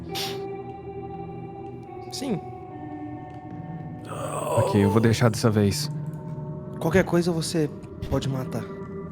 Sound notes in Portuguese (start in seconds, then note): 4.0 Existido grunhindo